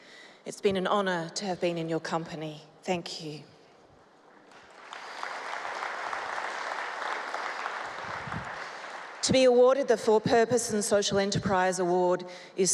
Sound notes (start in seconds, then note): 4.4 applause